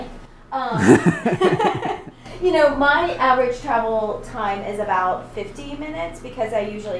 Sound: laughs

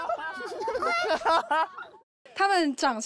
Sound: laugh loudly suddenly

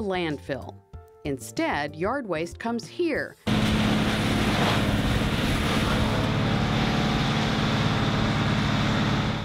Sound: machinery sound

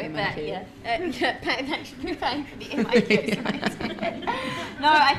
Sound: laughing

